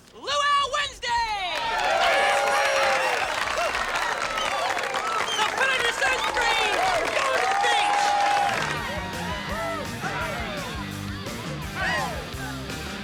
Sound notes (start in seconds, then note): 2.7 cheers and applause; 9.0 rock 'n' roll playing